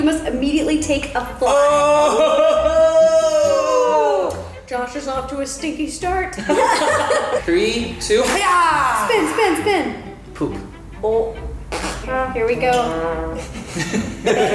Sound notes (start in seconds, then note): 11.7 fart